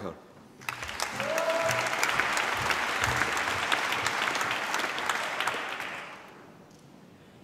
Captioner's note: applause